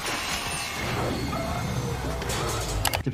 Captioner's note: metal clanks